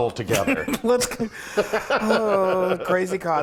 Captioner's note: laughing